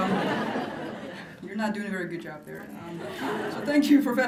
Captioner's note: laughter; laughter